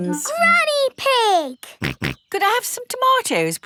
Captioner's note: snorts